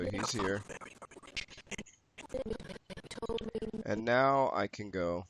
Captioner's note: audio skipping